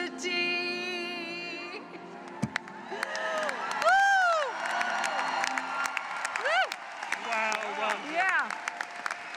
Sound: applause

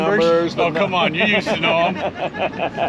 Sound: chuckling

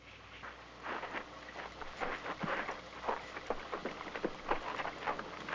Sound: sand crunching

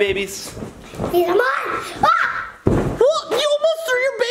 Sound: yells

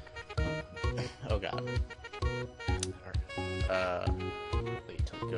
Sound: chuckles

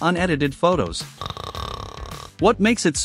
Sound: snoring

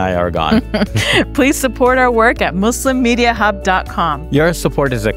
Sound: laughs

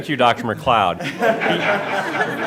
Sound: laughter

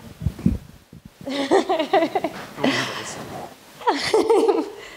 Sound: laughs

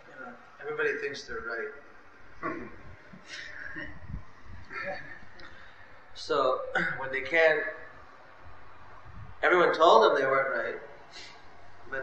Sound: laughter

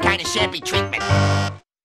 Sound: bzzz

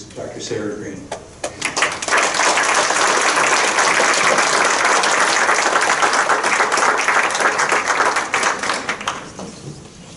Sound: crowd applauding

